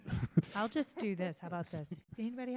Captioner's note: laughs